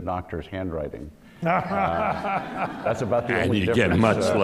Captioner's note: laughter